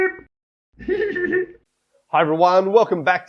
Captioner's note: Scruff laughs